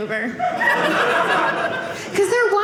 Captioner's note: audience laughing